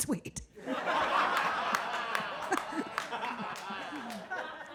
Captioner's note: audience laughs